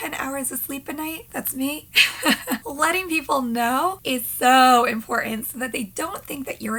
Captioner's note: laughing